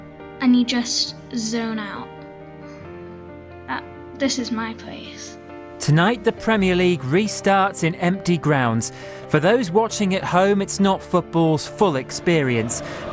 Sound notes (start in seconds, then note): 5.8 rolling news audio